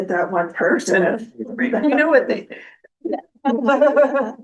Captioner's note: laughter